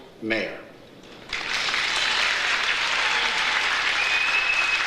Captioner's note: audience applauds